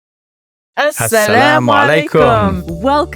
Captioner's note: both speaking non-English language